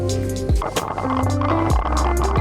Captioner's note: ice rattling